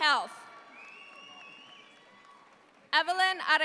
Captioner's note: audience applauds